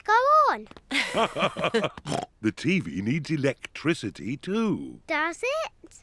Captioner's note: both laugh